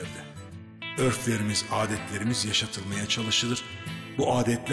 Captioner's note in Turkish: Ahmet dış ses